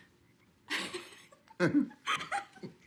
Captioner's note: both laugh